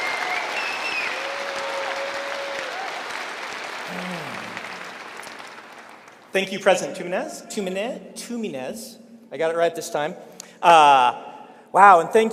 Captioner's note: cheering and applause